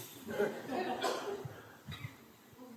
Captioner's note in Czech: smích